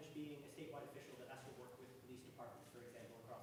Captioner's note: voice muffled